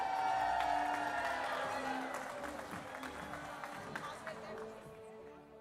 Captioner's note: applause